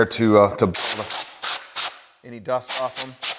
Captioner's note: air blowing